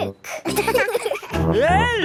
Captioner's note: laughing